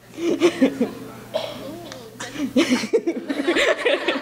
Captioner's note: laughing